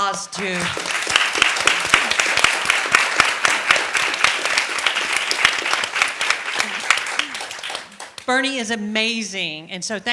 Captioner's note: applause